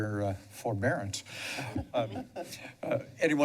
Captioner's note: laughter